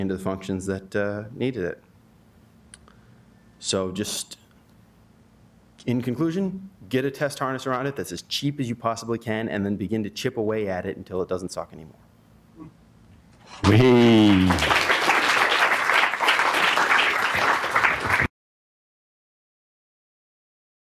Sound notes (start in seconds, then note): 13.6 applause